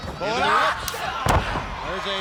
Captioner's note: body thudding